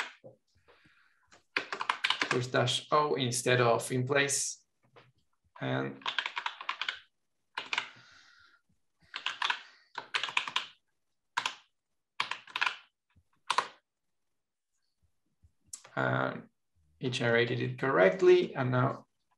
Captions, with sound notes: (keyboard clattering) with dash o instead of in place and each generated it correctly and now